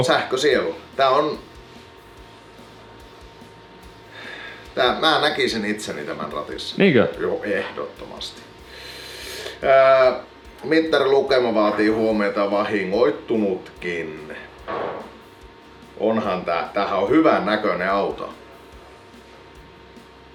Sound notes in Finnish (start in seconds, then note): 4.1 hengähdys; 8.6 hengitys